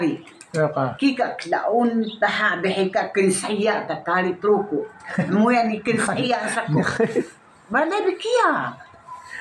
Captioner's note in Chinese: 嘻…